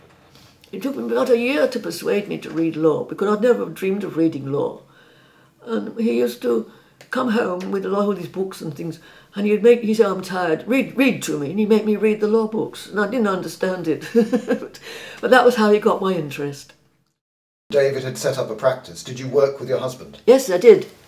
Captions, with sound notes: It took him about a year to persuade me to read law because I’d never dreamed of reading law. He used to come home with a lot of his books and things and he’d say “I’m tired, read to me” and he’d make me read the law books. And I didn’t understand it [laughing] But that was how he got my interest. David had set up a practice. Did you work with your husband? Yes, I did.